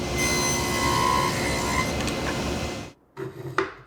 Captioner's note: tool squealing